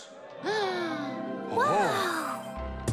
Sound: inhales

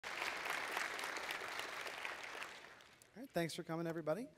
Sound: applause

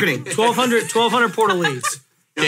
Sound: laughs

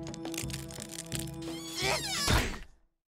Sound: grunting

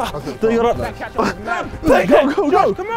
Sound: groaning

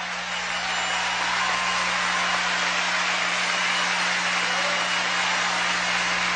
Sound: crowds cheering; crowds yelling, applauding and cheering

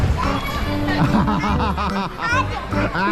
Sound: laughing

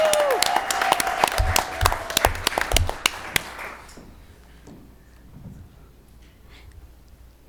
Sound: applause

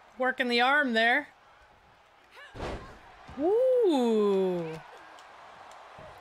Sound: applause

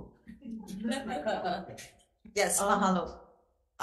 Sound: audience laughing

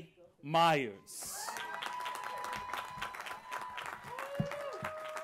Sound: applause

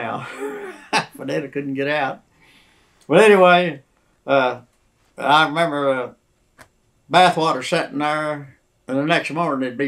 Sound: laughs

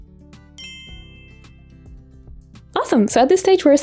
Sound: dinging sound effect

